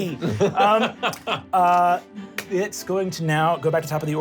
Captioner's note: laughs